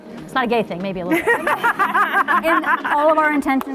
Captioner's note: panelists laughing